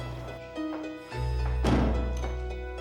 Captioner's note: footsteps approaching; door closes